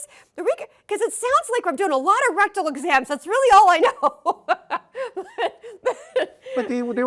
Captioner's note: laughs